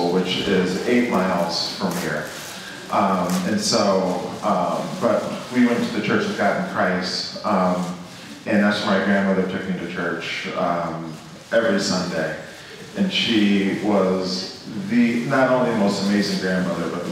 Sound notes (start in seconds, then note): none